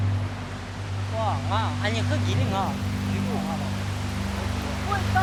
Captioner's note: Chinese spoken audio